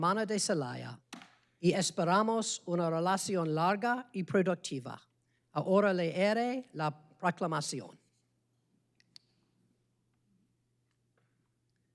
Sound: speaking spanish

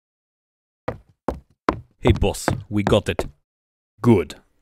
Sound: footsteps

